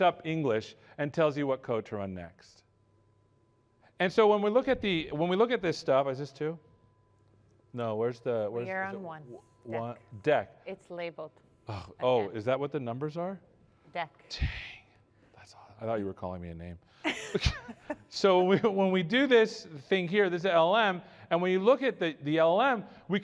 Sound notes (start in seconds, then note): 17.0 laughter